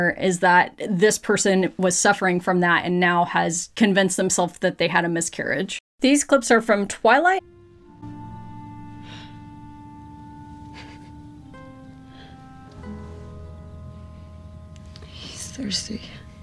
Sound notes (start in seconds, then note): 7.4 dramatic music; 8.3 sniffs